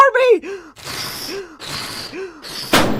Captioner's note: blowing; pop